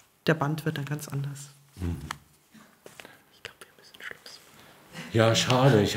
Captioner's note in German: flüstert